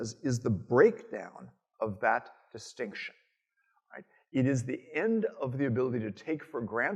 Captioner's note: none